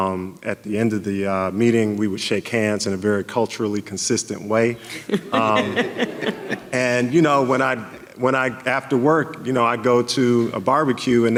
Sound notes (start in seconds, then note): 4.8 audience laughing